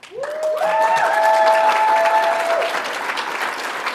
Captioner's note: audience applauds